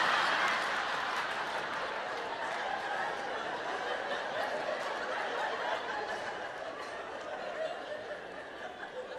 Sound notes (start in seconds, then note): 2.1 audience laughs